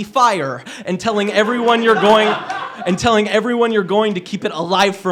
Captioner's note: laughter